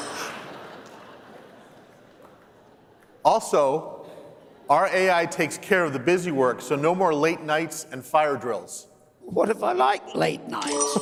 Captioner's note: laughter